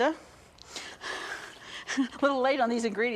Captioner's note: laughs